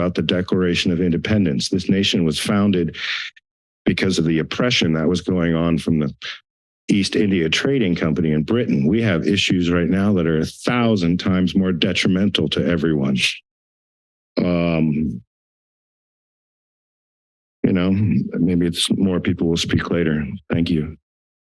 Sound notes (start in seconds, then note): 14.4 pause